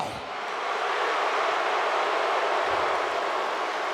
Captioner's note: audience jeers